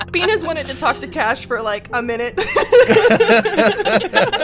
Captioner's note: laughs; EVERYONE laughs